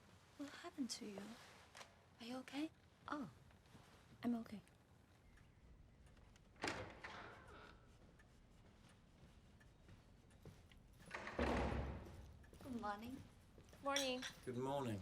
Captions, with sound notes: What happened to you? Are you okay? - Oh. I'm okay. (door creaks) (door closes) - Good morning. - Morning. - Good morning.